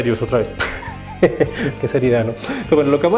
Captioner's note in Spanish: Risas